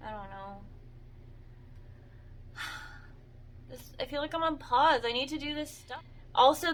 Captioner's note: sigh